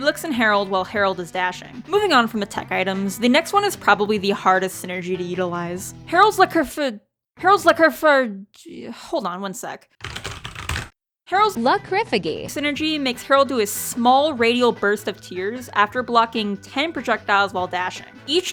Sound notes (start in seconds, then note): 10.0 rigorous typing; 11.4 in text-to-speech voice